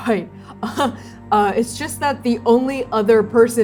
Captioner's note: disbelieving laugh